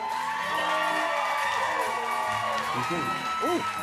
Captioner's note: cheers and applause